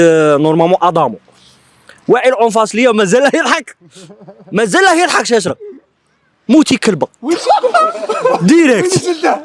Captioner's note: laughter